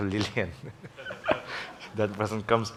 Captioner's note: laughs